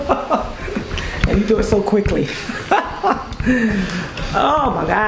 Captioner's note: laughs